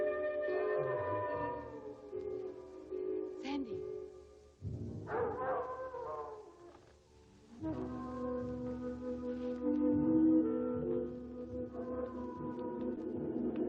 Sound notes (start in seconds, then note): 0.0 wolf howling; 5.1 wolf howling